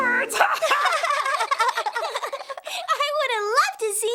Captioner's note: laughter; laughs